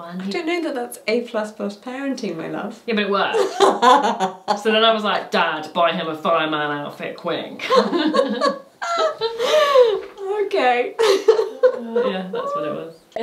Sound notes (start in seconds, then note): 3.3 laughing; 8.8 both laughing; 10.9 laughing